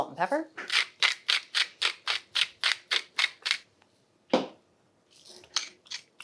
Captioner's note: salt and pepper mills grinding